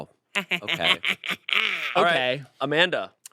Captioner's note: chuckles